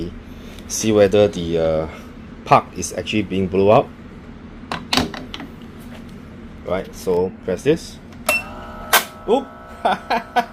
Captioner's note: laughter